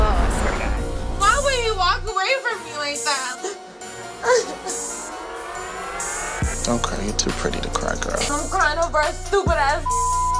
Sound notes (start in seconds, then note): 4.1 crying